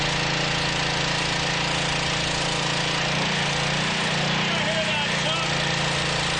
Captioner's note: air compressor motor